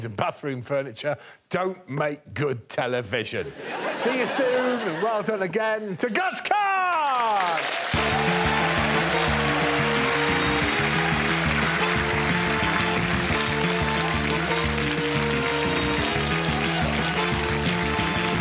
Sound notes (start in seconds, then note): 3.4 audience laughing; 9.7 audience cheering; 11.3 upbeat music